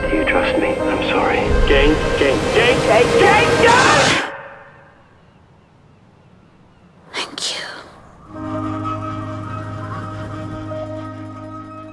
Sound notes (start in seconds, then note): 3.6 screaming; 8.3 ending music